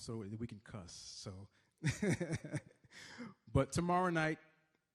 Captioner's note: laughs